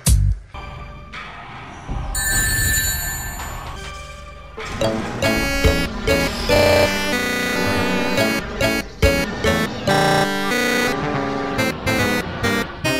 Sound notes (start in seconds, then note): 2.2 sonic rings sound